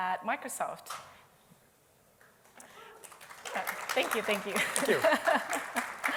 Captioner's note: applause